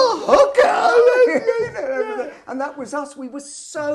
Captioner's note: laughing